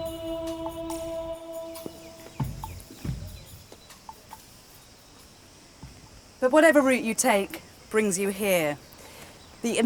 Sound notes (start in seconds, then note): 2.5 birds chirping